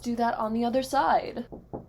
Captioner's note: knock knock